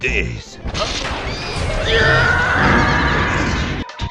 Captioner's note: man stock scream SFX